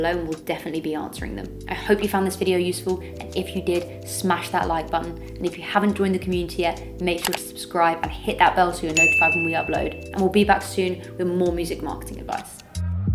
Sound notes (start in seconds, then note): 7.1 mouse clicks; 8.9 bell dings